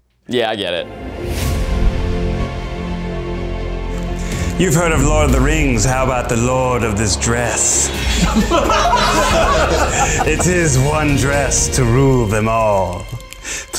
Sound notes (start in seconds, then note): 2.5 dramatic music; 7.9 all laughing